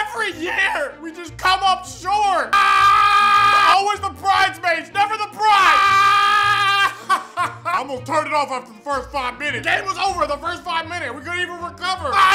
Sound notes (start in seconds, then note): 2.5 screaming; 5.5 screaming; 6.0 laughing